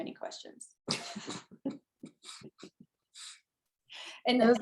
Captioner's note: both laughing